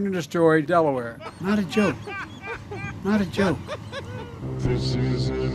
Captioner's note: stupid royalty free laughter